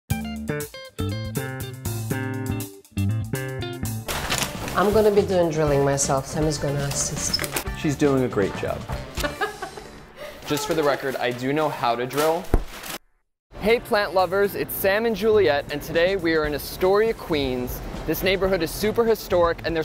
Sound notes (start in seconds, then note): 0.0 upbeat jazzy music; 9.2 laughs